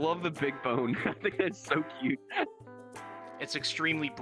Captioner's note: chuckles